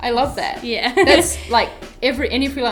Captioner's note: laughs